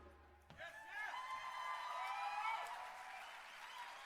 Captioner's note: cheering